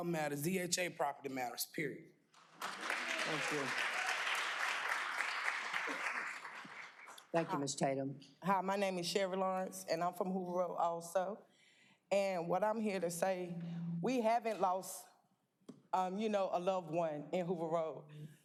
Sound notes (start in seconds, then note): 6.4 applause